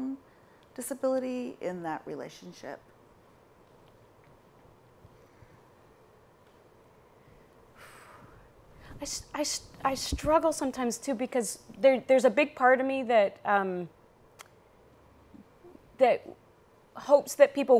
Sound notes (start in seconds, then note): 7.8 sighs